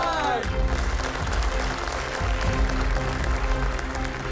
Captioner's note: applauses